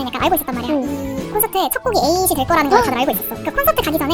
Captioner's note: whispering